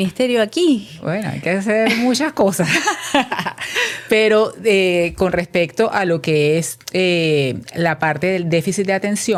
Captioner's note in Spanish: risas